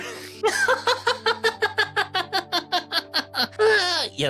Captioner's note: laughing